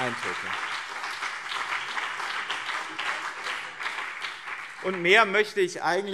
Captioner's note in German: Beifall BÜNDNIS 90/DIE GRÜNEN und CDU - Zurufe SPD